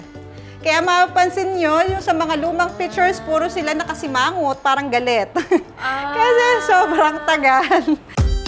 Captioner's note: laughs